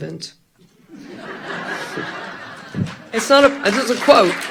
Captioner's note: audience laughing; audience applause